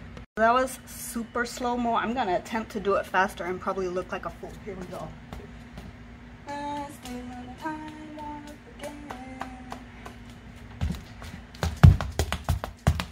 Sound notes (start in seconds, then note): 8.7 clapping to beat